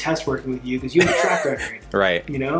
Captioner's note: laughing